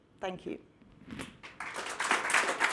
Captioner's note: clapping